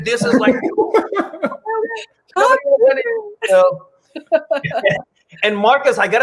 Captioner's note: laughs